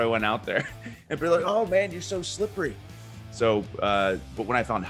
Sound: laugh

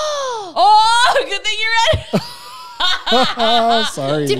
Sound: both laughing

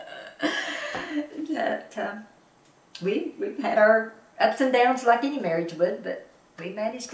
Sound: laughs

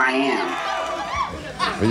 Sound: audience cheering

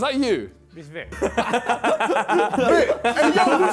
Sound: laughs

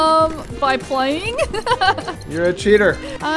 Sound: laughs

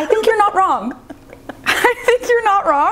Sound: laughing

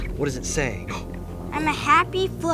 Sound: gasping

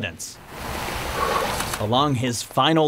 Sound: water flowing; exhales

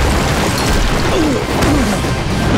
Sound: grunting

